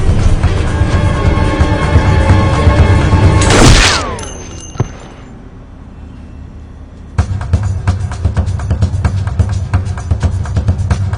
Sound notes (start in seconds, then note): 3.4 gun firing; 7.4 melodic suspenseful music